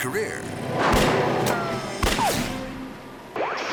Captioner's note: gun fires; transition whooping